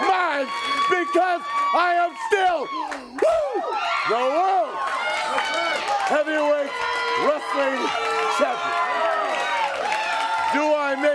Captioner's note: crowd cheering